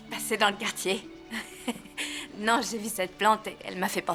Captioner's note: chuckles